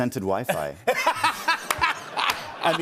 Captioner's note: laughter